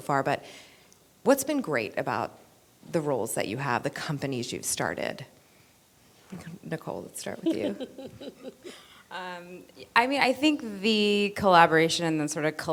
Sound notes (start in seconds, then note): 7.4 laughter